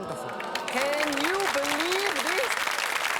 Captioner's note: audience clapping